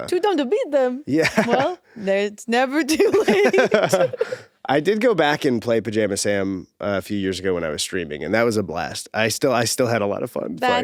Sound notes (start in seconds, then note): 1.2 laughs; 3.0 both laughing